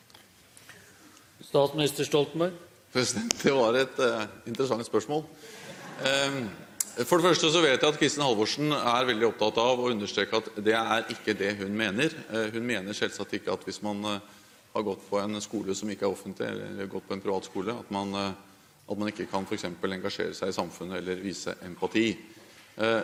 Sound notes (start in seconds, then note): 5.6 Munterhet i salen